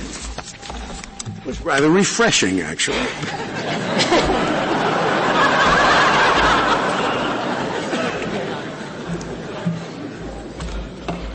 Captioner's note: laughter